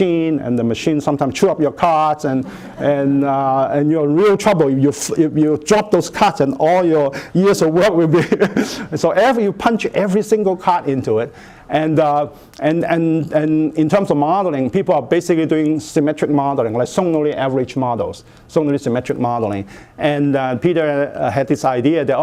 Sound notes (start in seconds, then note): 8.2 laughs